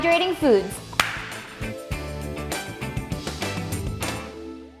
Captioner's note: hands clap together